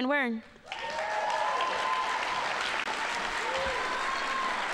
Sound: audience applauding

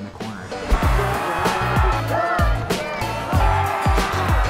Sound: fans cheering

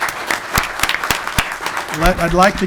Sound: clapping

